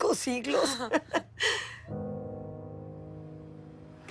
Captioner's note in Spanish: Risas